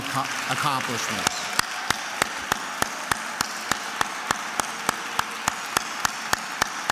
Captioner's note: attendees applauding and cheering